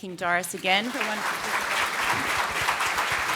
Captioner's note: applause